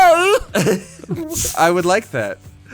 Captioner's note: laughing aloud